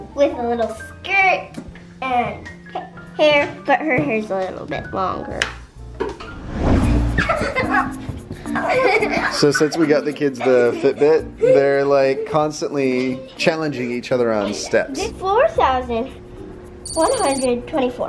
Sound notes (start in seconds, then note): 8.5 laughing